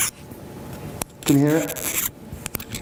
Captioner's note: scratching